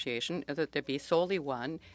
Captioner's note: speaking French